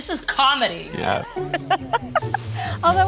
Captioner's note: woman laughs